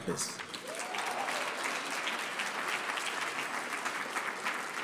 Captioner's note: audience applauding